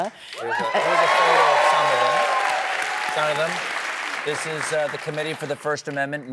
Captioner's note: applause